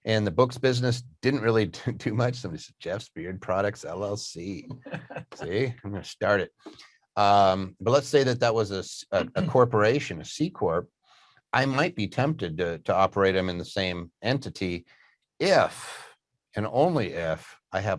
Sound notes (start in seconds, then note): 3.4 laughs